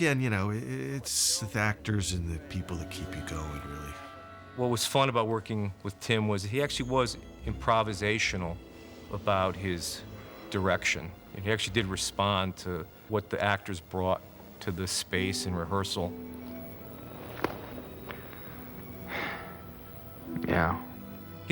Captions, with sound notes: But again, it's actors and the people that keep you going, really. What was fun about working with Tim was... ...he actually was improvisational about his direction. He actually did respond... ...to what the actors brought to the space in rehearsal. [SIGHS] Meow.